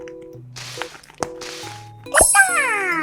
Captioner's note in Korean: 쓱싹쓱싹